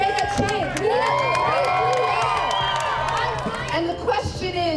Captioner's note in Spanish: crowd cheering and clapping